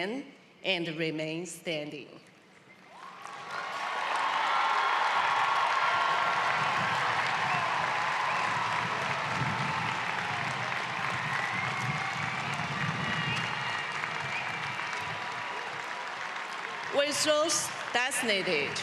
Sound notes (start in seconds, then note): 6.9 cheering and applause